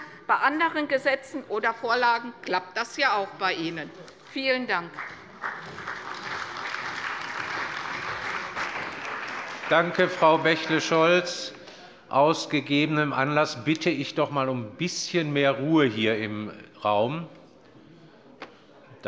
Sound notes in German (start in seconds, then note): 4.7 Beifall bei der CDU und dem BÜNDNIS 90/DIE GRÜNEN